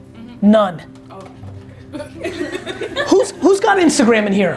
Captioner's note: laughs